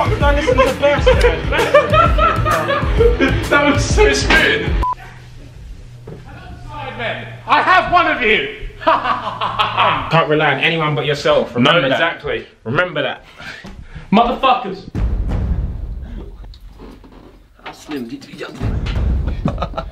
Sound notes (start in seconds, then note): 4.0 laughing